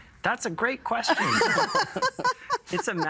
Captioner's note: laughing